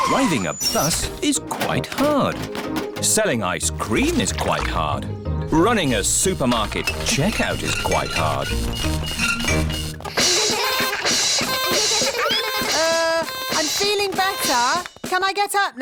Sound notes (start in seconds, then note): 9.3 items clinking; 10.2 all laugh